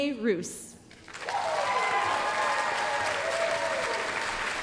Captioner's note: applause, cheering